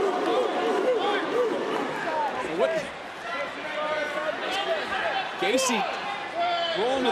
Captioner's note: crowd barks